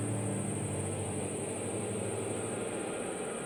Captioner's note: locusts chirping